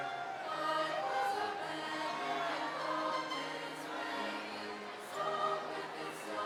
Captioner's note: cheering drowns out singing